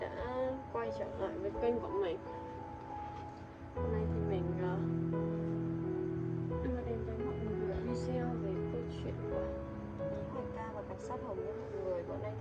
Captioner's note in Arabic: لغة أجنبية